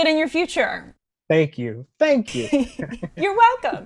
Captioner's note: chuckles